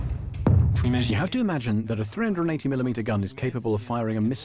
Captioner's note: voiceover